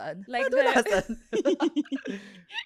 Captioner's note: laughs